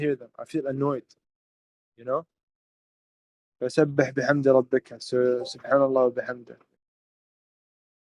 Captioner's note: speaking in Arabic